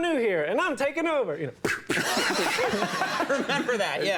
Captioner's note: exhales sharply